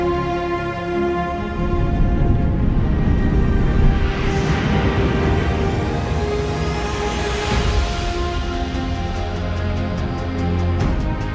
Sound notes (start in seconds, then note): 0.1 dramatic music playing; 5.3 jet engine rumbling